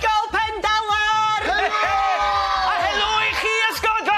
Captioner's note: cheering